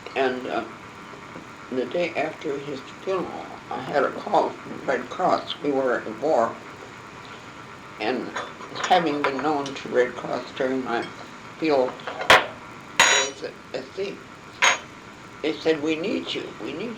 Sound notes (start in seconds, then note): none